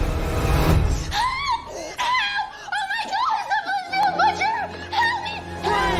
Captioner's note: screams